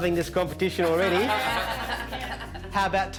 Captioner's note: laughing